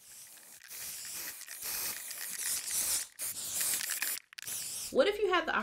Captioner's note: spray paint can spraying